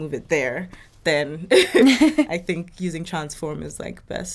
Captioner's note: laughing